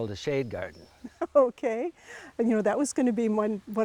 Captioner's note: laughing